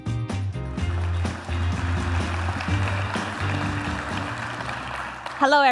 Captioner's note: applause